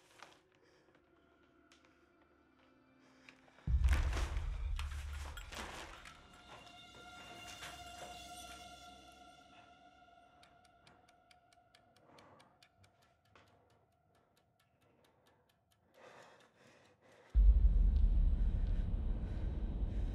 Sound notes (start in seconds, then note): 10.4 timer ticking; 17.3 ominous music